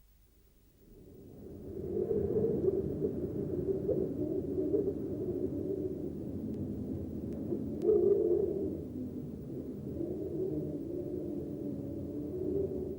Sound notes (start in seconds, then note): 0.2 wind whistles; 7.9 wind continues whistling